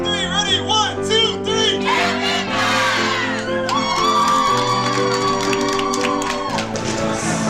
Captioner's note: cheering